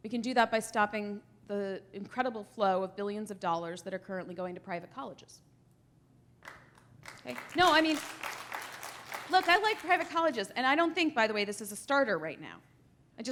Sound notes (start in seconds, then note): 6.4 applause